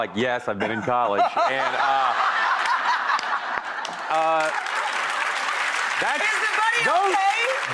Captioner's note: audience laughing; Rachael laughing; audience applauding